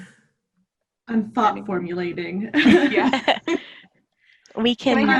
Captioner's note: laughing